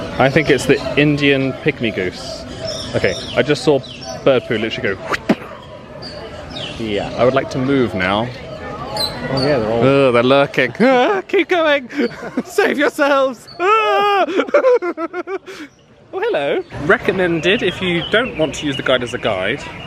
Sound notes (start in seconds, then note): 5.0 thwips; 13.5 laughs